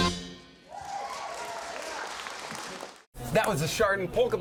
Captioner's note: audience applauding and cheering